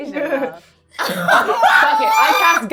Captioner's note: everyone laughing